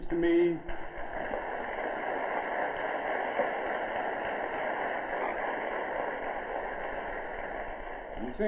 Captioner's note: clapping